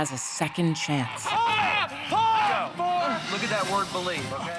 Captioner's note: screaming